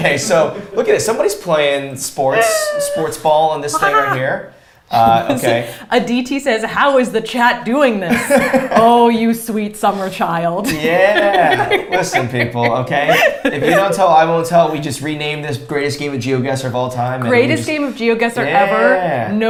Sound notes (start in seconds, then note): 8.2 laughs